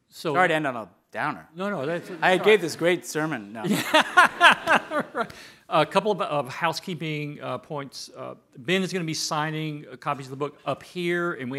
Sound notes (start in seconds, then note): 3.6 laughing